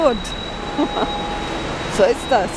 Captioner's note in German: Lachen